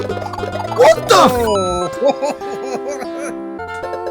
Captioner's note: chuckles